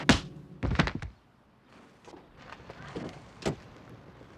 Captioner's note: body thuds